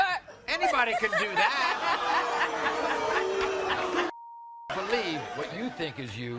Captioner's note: audience jeering and booing